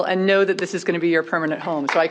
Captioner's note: applause